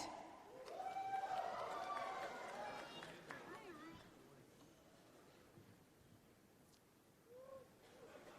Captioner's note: cheering and Applause